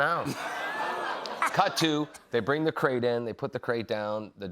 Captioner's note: audience oohs